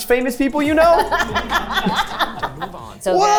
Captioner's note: laughs